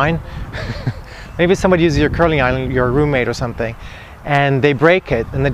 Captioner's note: laughs